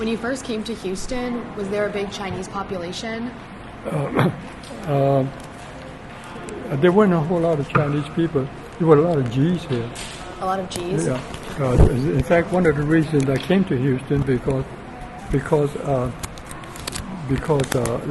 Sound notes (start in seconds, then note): 3.8 clears throat